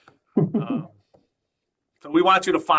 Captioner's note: chuckle